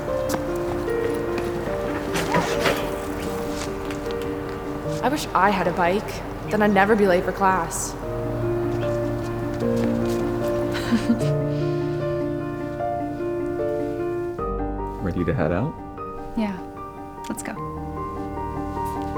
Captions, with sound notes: - I wish I had a bike, then I'd never be late for class. (laughing) - Ready to head out? - Yeah, let's go.